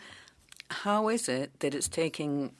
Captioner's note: speaking French